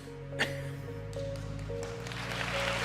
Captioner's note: applause